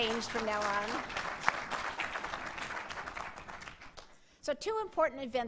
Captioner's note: applause